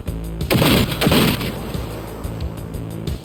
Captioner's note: guns popping